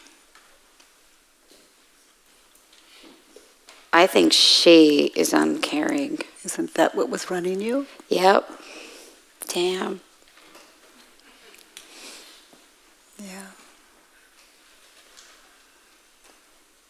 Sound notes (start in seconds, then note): none